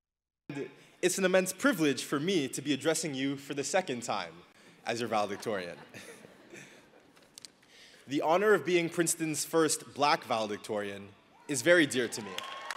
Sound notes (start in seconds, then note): 5.1 laughing; 12.0 audience applauding